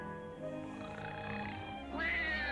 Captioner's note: man snoring; baby crying